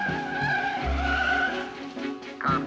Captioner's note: Lastikler çığlık atıyor